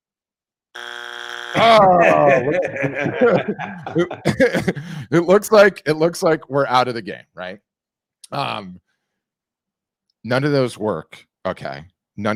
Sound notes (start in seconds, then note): 0.8 buzzer beeps; 1.6 laughs